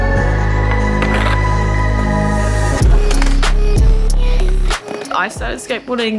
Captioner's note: skateboards clicking